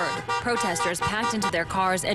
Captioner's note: honks